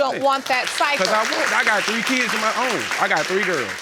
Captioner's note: audience applauding